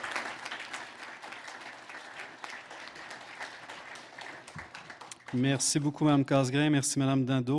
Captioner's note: applause; speaking French